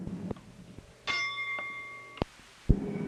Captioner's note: bell Sound